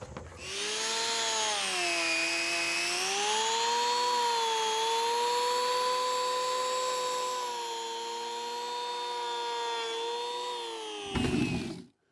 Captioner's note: sawing